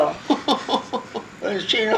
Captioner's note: laugh; laughing